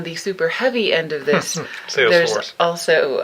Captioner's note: laughing